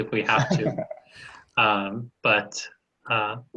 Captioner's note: laughing